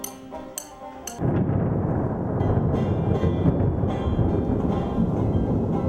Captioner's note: thundering rattling